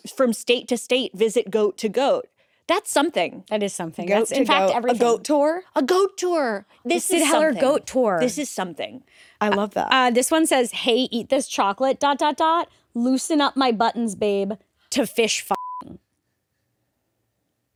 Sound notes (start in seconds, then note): 15.5 beep